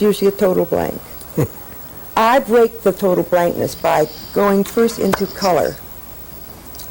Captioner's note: laughter